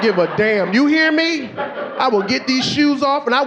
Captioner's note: audience laughing